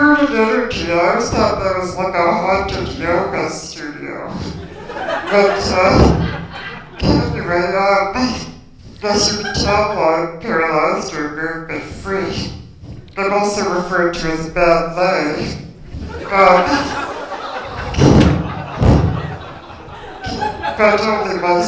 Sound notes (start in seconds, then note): 4.4 laughter; 16.0 laughter